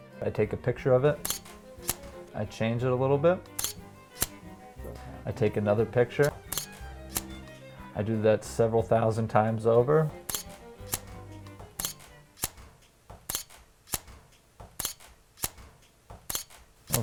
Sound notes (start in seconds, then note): 1.0 camera shutter click; 10.0 camera shutter clicks